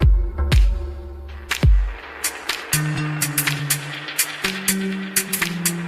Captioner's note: applause